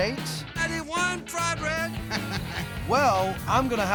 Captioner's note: laughter